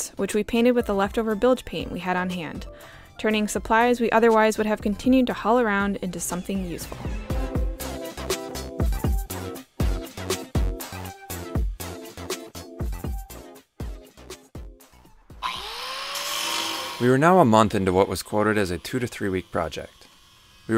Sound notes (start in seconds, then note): 7.4 techno jazz music; 15.4 power saw humming